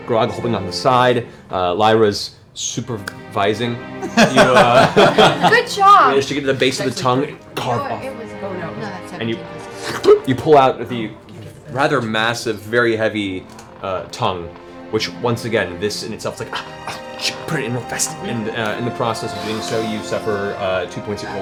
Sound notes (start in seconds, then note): 9.6 slurp-pop; 16.5 yelps